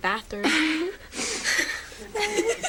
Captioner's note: both giggle